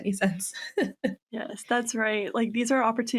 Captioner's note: laughs